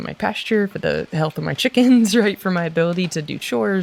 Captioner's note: giggles